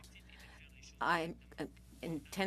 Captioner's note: speaking French